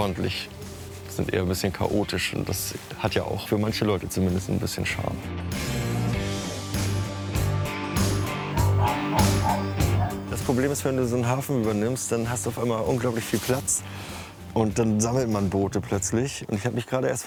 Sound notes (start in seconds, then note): 6.2 casual music; 8.5 barking